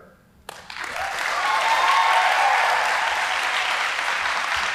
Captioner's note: audience applauding